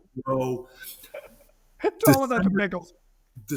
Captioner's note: laughing